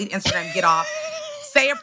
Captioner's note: laughs